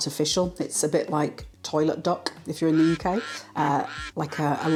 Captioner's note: quack quack